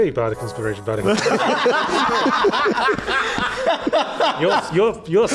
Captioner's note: laughs So F'n hard